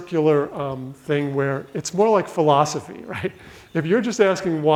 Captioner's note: laughs